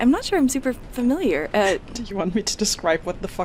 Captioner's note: laughs